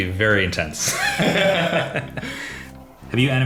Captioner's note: both laughing